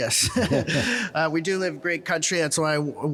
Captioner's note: and person in 'Canada' shirt chuckling